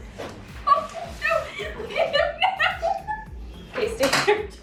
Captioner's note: laughing